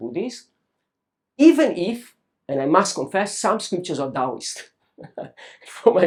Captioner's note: laughs